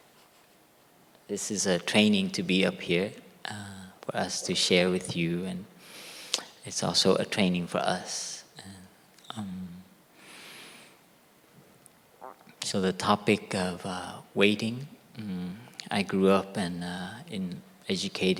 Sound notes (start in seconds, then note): 1.9 normal voice